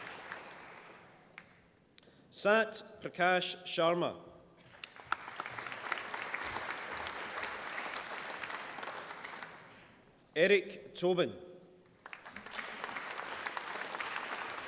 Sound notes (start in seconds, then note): 4.6 applause; 12.0 applause